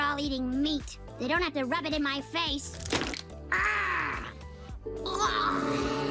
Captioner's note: groans